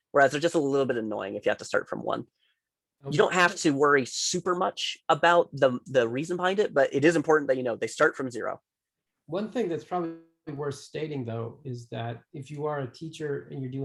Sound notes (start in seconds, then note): 9.0 tender Voice